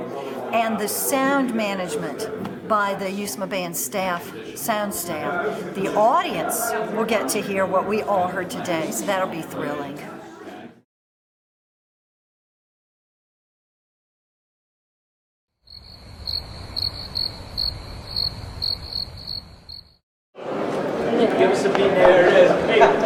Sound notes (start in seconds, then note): 15.6 crickets chirping